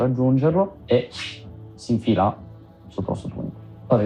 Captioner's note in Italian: Swish